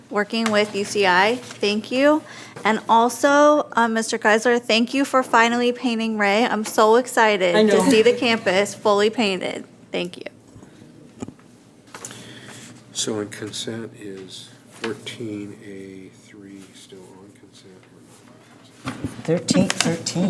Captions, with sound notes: working with UCI. Thank you. And also Mr. Geiszler, thank you for finally painting Rea. I'm so excited to see the campus fully painted. Thank you. - So in consent is 14 A3 (mutters)